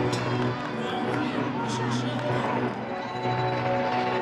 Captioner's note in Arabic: رنين الجرس